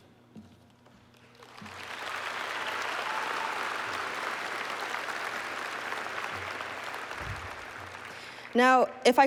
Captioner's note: applause